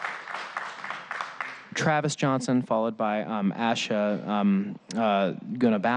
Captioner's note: applause